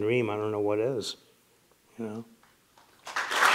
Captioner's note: cheers and applause